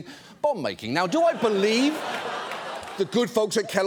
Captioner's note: audience laughs